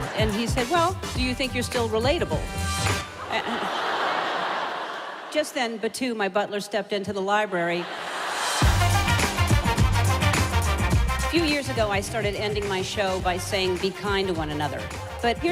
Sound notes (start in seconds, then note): 3.1 audience laughing; 8.0 upbeat music